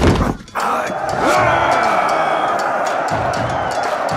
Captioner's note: grunts, groans; all cheering